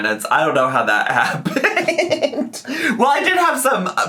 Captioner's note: laughs